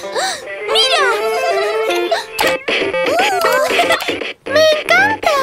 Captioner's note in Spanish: Risas